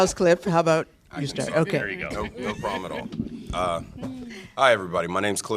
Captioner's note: laughter